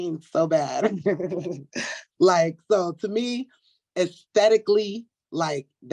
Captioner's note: laughs